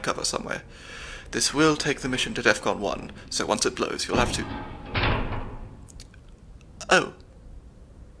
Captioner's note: vault door opens